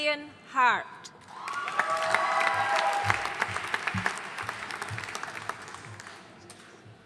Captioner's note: audience cheering and applauding